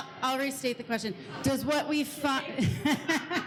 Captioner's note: laughs